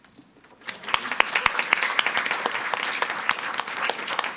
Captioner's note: audience applauding